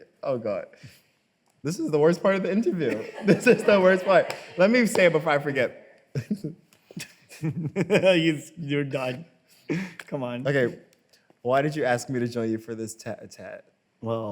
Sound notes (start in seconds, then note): 7.0 laughs